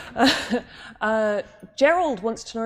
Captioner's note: laughs